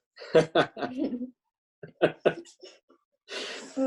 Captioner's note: laughs